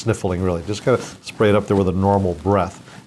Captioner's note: sniffs